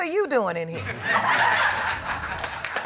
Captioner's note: laughter